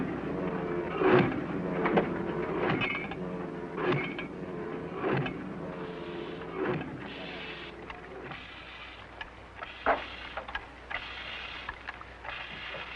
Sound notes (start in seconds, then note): 5.7 pump sound